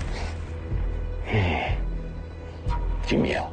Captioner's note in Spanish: Gruñido